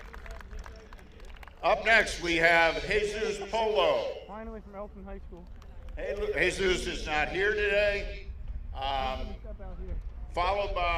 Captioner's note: applause